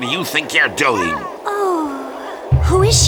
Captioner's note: moans